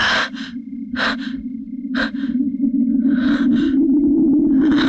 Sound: panting

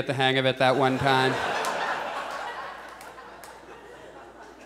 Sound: audience laughs

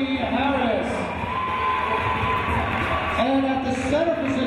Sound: cheering

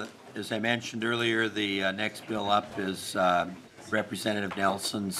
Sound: gavel

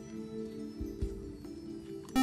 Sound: buzzer

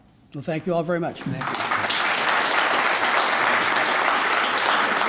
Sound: applauding

